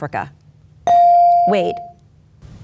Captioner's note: bell dings